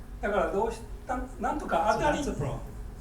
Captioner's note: speaking in foreign language